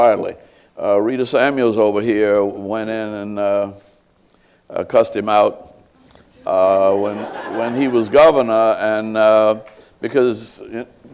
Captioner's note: laughter